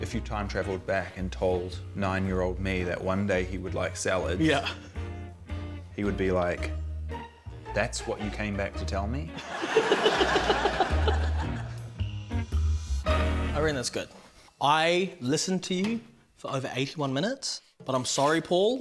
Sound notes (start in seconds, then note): 9.4 laughs